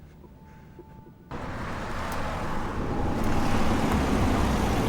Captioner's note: engine rumbling